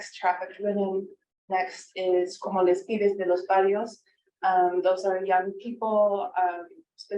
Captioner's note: speaking foreign language